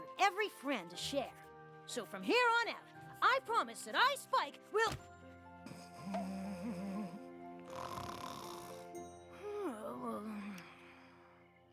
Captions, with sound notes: "THAT THERE'S PLENTY OF LOVE FOR EVERY FRIEND TO SHARE. SO FROM HERE ON OUT, I PROMISE THAT I, SPIKE, WILL --" [ THUD ] [ SNORING ] [ POINK! ]